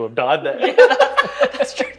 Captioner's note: both laughing